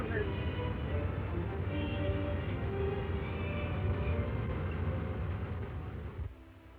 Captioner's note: suspenseful music; flames roaring